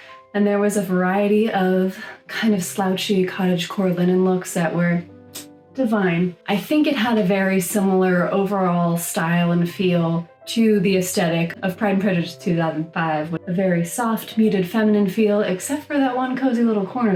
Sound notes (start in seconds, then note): 5.3 kiss noise